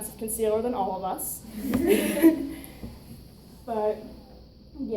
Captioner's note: audience chuckles